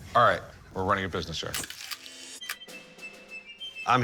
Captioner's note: shutter clicking